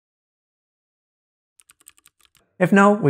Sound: keyboard clicking

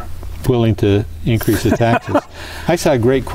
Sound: laughter

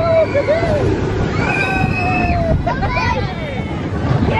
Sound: screaming

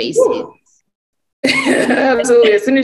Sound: laughing

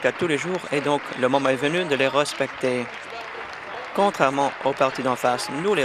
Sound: applause

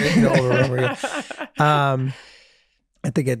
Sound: Meg laughing

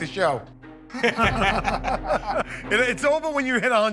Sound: laughter

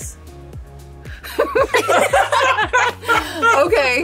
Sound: group laughing

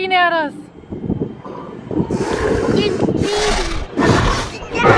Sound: dino breathing

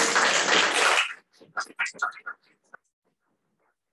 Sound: applause

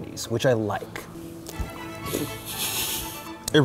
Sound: lip smacking and laughing

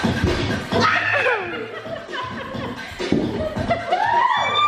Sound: laughing

